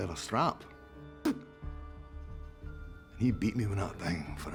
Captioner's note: spits